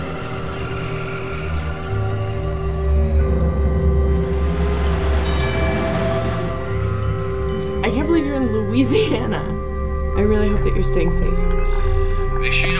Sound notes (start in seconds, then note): 5.6 ominous music; 5.6 trolley bell chimes